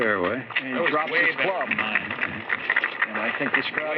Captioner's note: applause